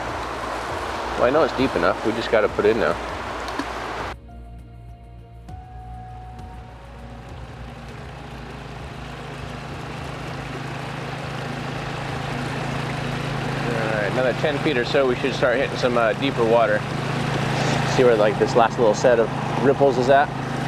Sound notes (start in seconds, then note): 3.0 sonar ball splashing; 4.3 high intensity music; 7.5 water rushing; 10.6 engine rumbling